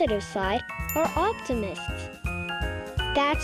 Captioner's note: tick sound